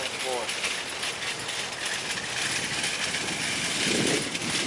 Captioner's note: metal rattling